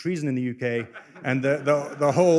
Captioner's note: laughter